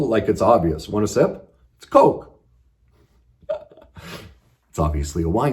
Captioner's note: laughs